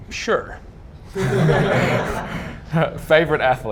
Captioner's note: audience laughing